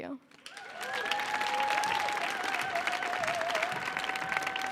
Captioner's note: audience applauding